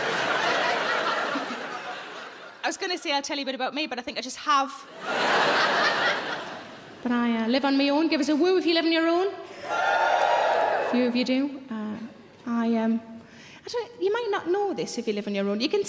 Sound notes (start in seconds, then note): 1.5 Sarah chuckles; 4.9 audience laughing